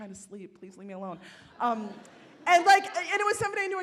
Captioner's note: audience laughs